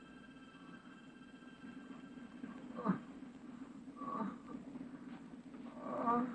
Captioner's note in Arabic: أصوات تأوه